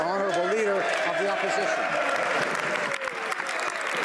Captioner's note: speaking French